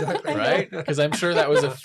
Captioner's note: laughs